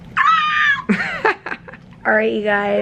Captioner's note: chuckles